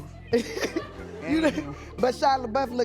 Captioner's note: chuckles